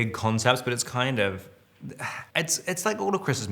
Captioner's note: Robert sighs